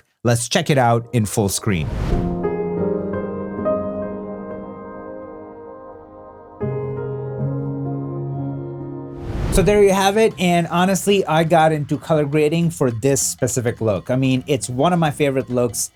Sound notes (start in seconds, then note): 1.6 screen whooshing; 2.1 piano music; 9.1 screen whooshing